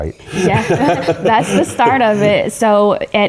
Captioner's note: laugh